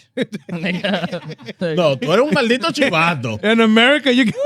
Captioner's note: laughing; speaking In Foreign Language